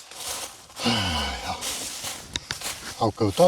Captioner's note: sigh